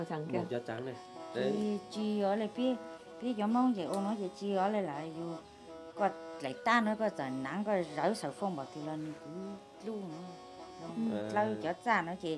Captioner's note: speaking in Mong language